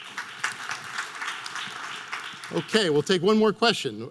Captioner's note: audience applause